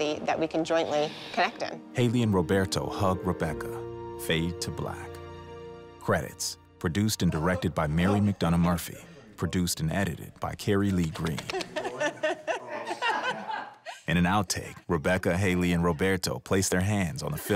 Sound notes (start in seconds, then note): 10.8 hands patting; 11.0 laughter